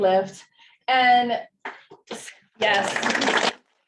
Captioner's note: audience clapping